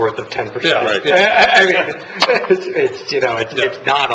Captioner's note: laughter